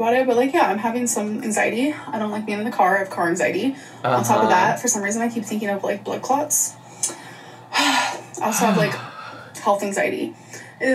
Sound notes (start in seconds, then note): 7.7 sighs